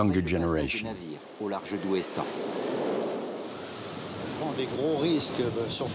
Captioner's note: speaking in foreign language